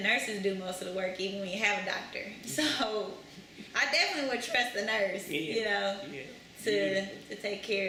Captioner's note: laughs